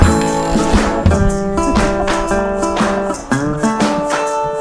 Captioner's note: laughing